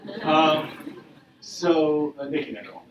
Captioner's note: audience laughing